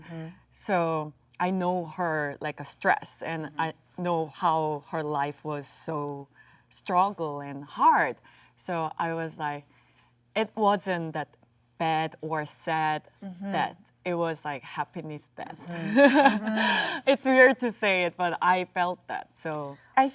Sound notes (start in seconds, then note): 15.6 laughs